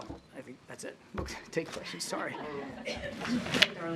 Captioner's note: laughter